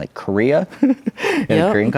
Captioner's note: laughs